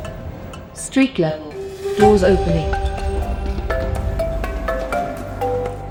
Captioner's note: lift announcement